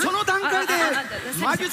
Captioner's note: stutters